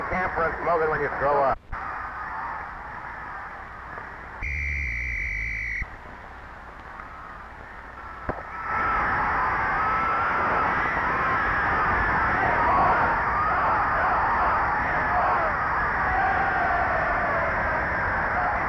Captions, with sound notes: - Well, put it in camphor and smoke it when you grow up. (referee whistling) (crowd cheering) (gun firing) (crowd chanting)